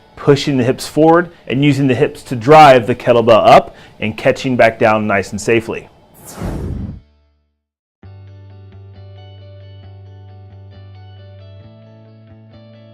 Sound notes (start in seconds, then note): 6.1 swooshing; 8.0 mellow rock music